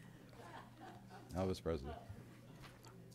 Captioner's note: laughter